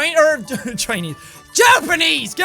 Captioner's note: laughter